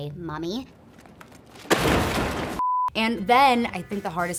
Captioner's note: crashing in dumpster